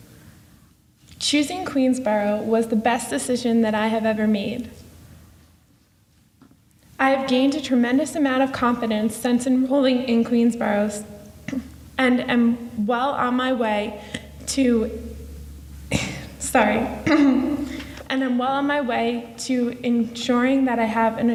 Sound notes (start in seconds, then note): 15.8 coughs